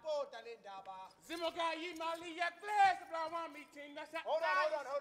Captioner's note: speaking language other than English